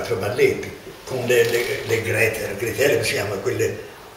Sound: grates

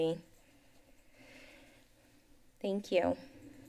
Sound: pause

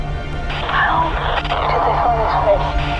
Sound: radio crackle

